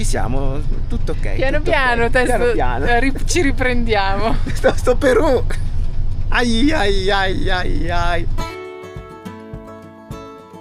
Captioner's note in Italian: risate